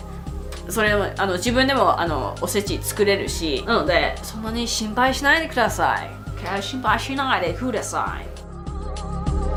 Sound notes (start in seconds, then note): 7.5 gaijin accent